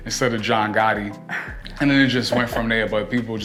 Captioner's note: laughs